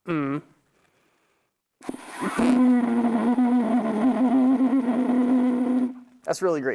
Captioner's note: makes sound on horn